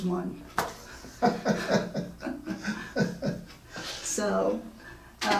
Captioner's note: laughing